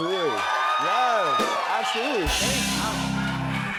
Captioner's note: cheers and applause